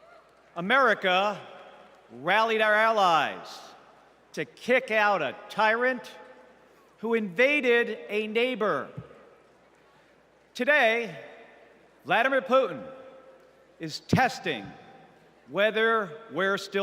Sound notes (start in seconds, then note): none